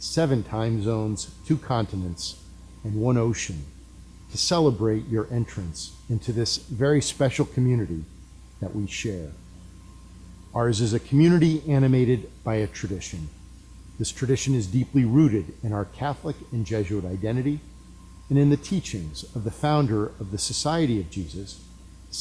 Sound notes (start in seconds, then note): none